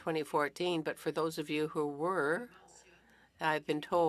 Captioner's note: speaking French